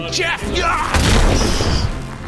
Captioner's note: crash!